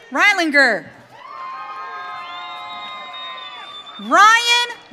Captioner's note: audience cheering